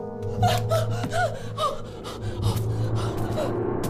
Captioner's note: Ava panting